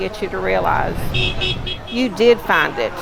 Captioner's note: honking